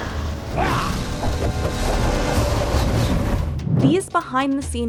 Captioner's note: air whooshing